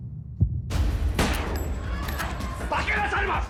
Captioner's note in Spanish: Disparos